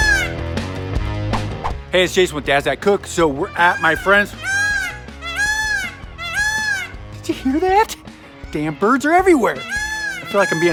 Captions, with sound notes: (swooshing) - Hey, it's Jason with Dads That Cook. So, we're at my friend's-- (peacock cawing) Did you hear that? Damn birds are everywhere! (peacock cawing)